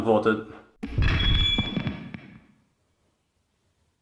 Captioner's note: microphon screech